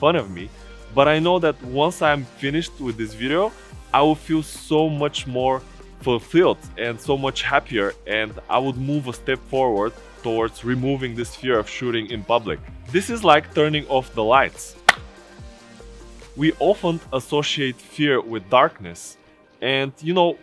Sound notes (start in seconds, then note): 14.8 hands clap